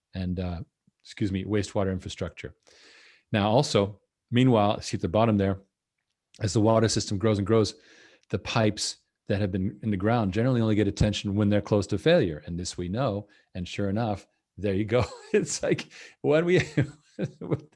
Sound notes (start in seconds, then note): 16.4 chuckles